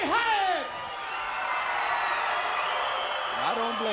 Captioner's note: crowd cheering